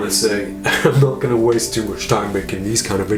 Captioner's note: laughing